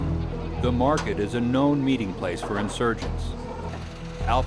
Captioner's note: voiceover